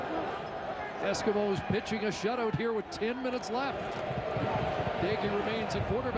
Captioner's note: applause